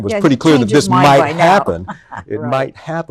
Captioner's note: chuckles